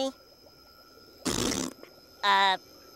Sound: blowing raspberry

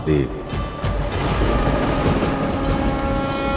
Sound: thunder rumbling

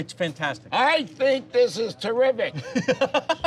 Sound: yelling; laughing

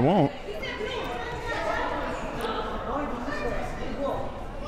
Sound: players arguing

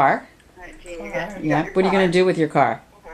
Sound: voiceover

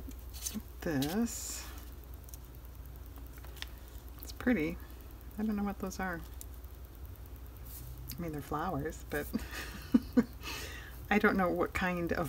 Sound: laughs

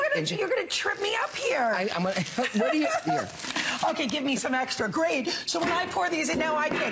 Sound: laughter

